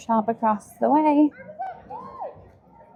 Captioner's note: crowd chattering